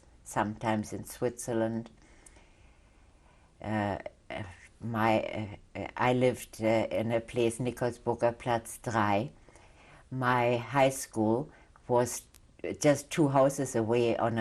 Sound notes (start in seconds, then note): 1.4 pauses for 3 seconds; 8.6 german